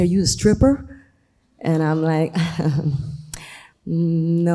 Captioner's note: chuckles